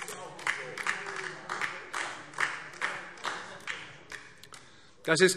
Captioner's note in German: Beifall DIE LINKE